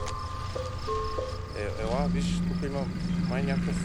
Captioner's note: men speaking foreign language